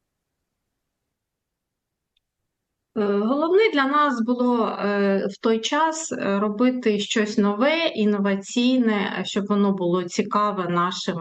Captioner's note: foreign language